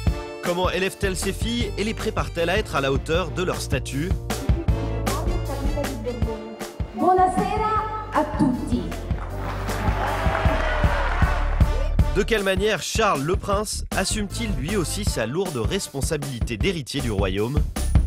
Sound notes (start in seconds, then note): 7.0 speaks in Italian; 9.0 applause